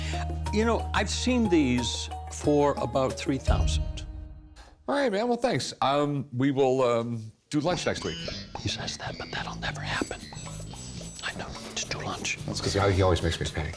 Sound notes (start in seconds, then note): 8.1 whispering